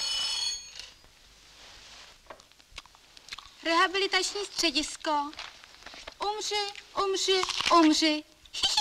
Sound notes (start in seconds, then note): 3.8 speaks in foreign language